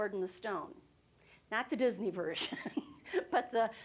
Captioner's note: chuckling